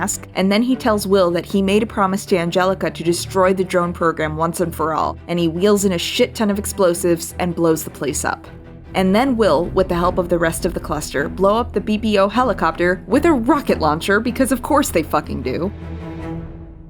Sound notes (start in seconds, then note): none